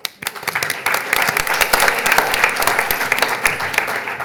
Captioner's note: audience applauding